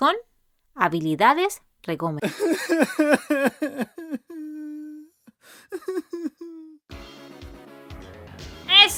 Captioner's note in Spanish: lloriqueo